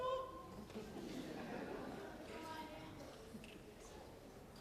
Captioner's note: audience laughs